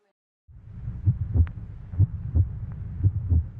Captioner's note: heartbeat